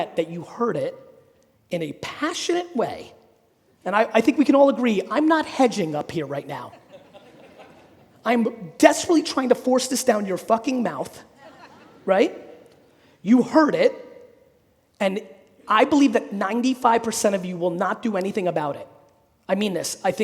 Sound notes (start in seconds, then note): 6.7 audience laughing